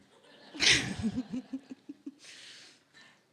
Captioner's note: laughing